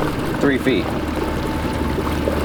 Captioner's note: water splashing